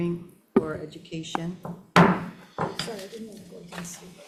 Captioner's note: gavel pounding